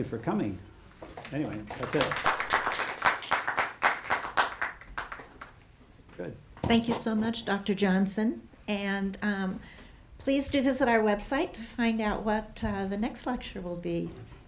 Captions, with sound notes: Well, thank you for coming. Anyway, that's it. (audience applauding) Good. - Thank you so much, Dr. Johnson. And please do visit our website to find out what the next lecture will be.